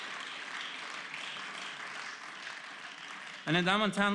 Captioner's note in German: Beifall